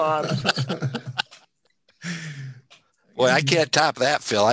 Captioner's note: laughter